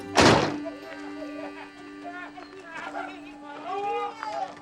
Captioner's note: laughter and exclamations